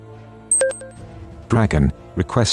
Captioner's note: com Chime